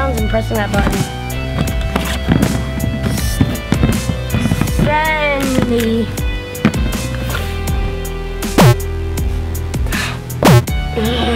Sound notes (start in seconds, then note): 6.3 beeping